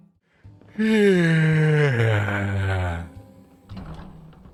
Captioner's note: yawn